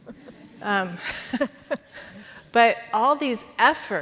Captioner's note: audience laughing quietly